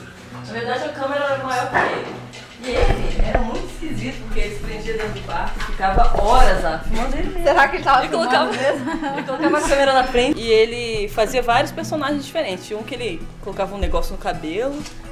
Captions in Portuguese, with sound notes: Na verdade a câmera era maior que ele. E ele era muito esquisito, porque ele se prendia dentro do quarto e ficava horas lá. Filmando ele mesmo... - Será que ele tava filmando, mesmo? (risos) E ele fazia vários personagens diferentes, Tinha um que ele colocava um negócio no cabelo,